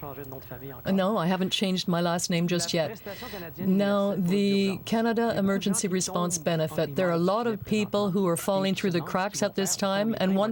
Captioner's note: speaking French